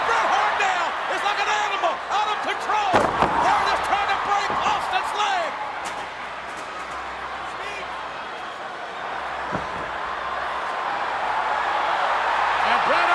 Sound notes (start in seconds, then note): 5.3 chair thuds; 9.7 audience cheering